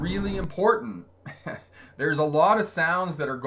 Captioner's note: chuckling